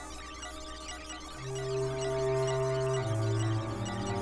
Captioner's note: faster beeping